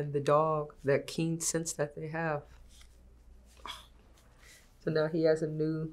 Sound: sighs

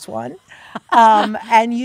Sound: Kate laughing

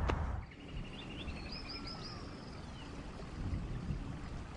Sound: birds chirping

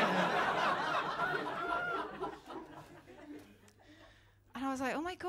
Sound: laughter

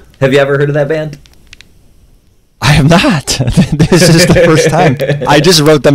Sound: laughs

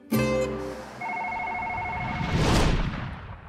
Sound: phone ringing

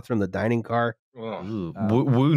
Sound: gulps nervously

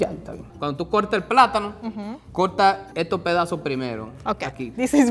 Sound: speaking in foreign language

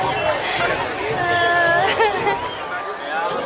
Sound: laughter

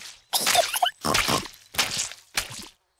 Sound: giggles and snorts

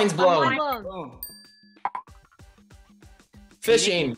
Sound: bell dings

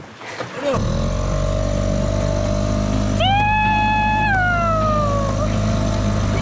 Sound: engine humming; yelling and laughing

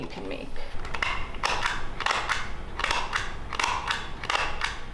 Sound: stapler clicking

